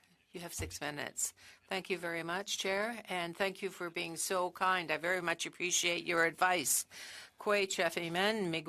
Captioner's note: speaking French